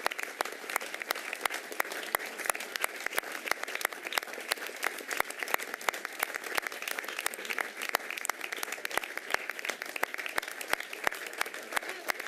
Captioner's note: applause